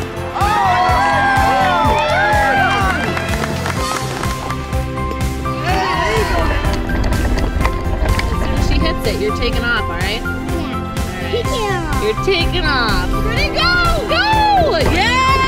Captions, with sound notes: [cheering] [crowd clapping] [cheers] If she hits it your taking off right? Yeah. Taking off. You're taking off. Go, go! Yeah!